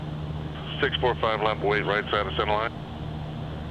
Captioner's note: radio